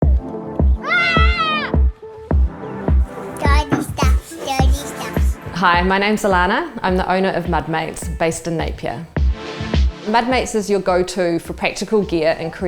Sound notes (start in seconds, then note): 0.0 upbeat music; 0.8 child screaming